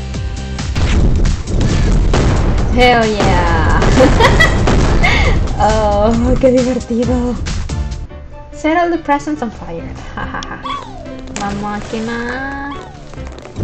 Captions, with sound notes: Hell yeah! [laughs] Oh, how fun! "Set all the presents on fire" We're gonna burn!